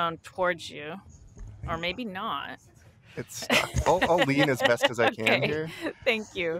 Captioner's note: laughter